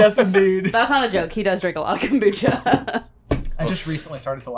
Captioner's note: laughs